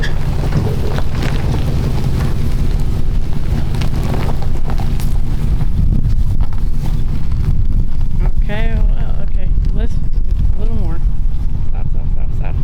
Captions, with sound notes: (Wind Blowing) Okay, well, okay. Let's, let's, a little more. Stop, stop, stop, stop.